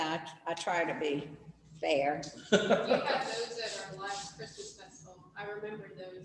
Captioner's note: laughs